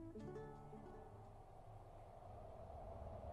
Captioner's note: wind howling